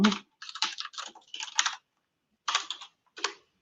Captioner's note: typing